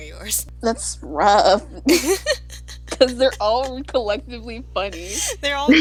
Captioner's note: laughter